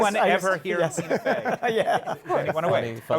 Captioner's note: laughs